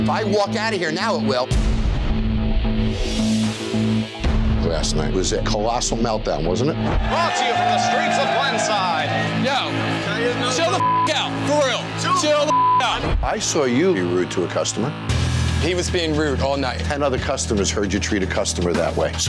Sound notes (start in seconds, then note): 6.9 cheering; 10.7 beep